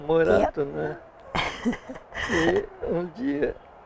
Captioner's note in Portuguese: risos